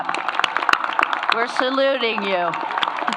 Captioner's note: applause